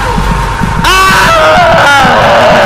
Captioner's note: screaming